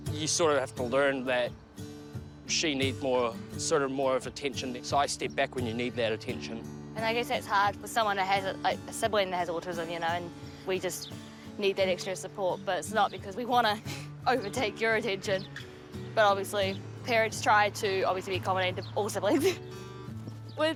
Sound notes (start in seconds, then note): 14.3 chuckles